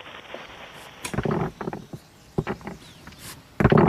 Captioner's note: rocks falling